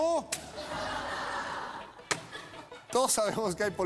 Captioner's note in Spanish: risas